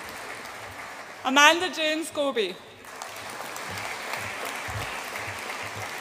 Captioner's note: audience applauds